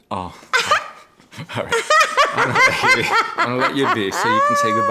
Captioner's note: laughing